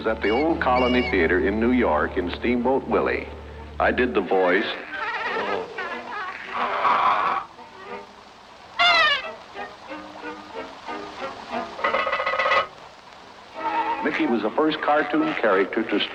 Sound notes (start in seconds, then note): 4.6 laughing; 8.8 high-pitch scream; 12.1 cranking sound